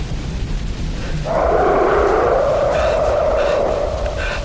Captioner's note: more creatures roaring